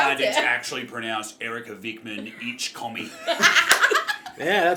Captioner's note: in bogan Aussie accent